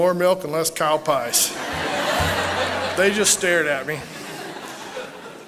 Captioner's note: laughter